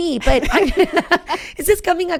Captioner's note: laughing